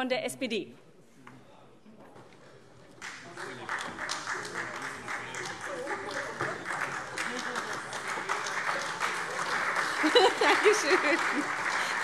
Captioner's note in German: Beifall SPD, Freie Demokraten und vereinzelt AfD